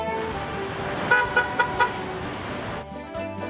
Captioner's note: horn honks